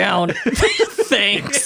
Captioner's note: laughing